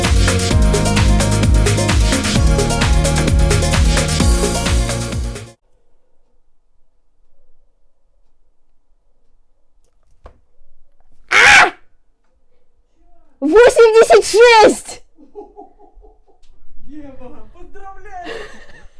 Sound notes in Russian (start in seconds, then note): 11.2 крик